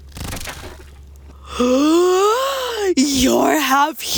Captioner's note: disappearing whirls; loud gasp